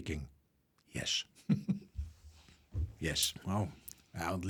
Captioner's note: laughs